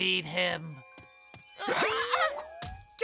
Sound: shrieking

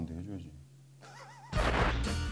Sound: haha

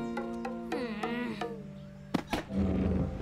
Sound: groans

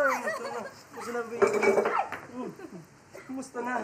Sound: laughs; shrieks

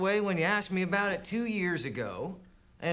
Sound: none

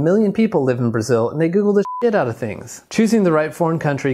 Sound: beep

